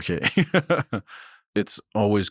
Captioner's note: chuckles